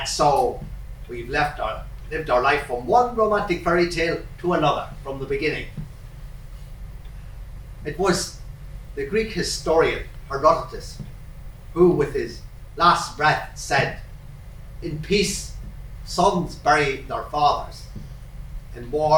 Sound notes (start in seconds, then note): none